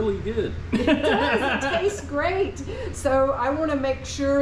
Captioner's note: laughs